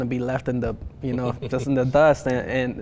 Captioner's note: chuckles